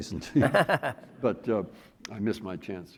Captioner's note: laughing